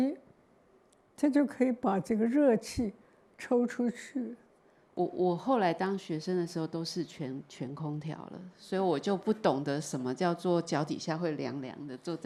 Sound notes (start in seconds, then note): 5.4 Mandarin